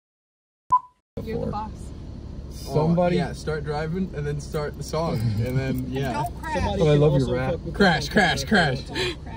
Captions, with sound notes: *Beep* You're the boss Uh, yeah... / Somebody- Start driving And then start...the song And then... yeah Don't crash. Oh, I love your rat Crash! Crash! Crash! *Laughs*